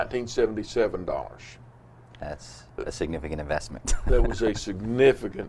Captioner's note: laughs